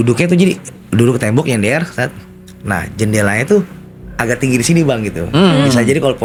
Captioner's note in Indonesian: berdehem